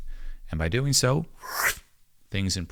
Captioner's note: making whooshing sound